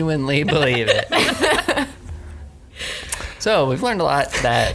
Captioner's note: group laughing